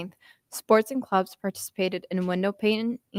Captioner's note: none